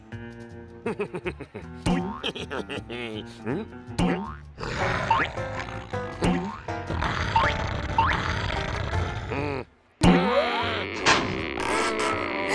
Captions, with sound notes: (laughing) HMM? (snarling) MMM! NNNH!